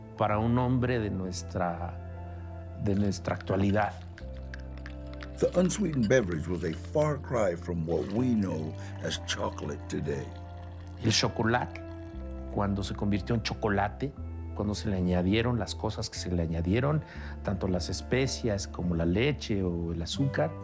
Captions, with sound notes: to someone from our time. [stick clacking] [in English] The unsweetened beverage was a far cry from what we know as chocolate today. [in Spanish] When xocolatl became hot chocolate… When they added things to it… The spices, milk, and sugar.